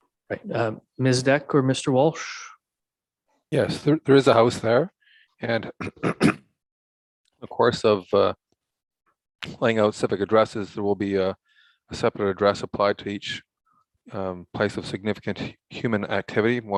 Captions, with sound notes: - Ms. Deck or Mr. Walsh? - Yes, there is a house there and (clearing throat) the course of playing out civic addresses there will be a separate address applied to each place of significant human activity,